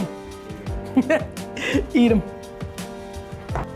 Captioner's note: laughing